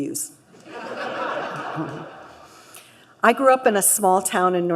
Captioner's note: laughter